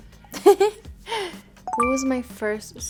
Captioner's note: laughing; bell chiming